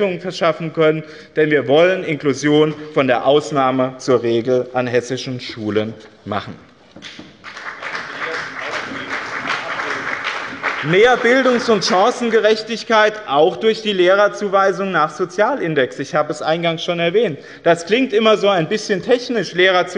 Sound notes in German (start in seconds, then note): 7.0 Beifall bei dem BÜNDNIS 90/DIE GRÜNEN und der CDU